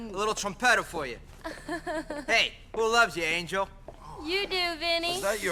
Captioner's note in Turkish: kıkırdar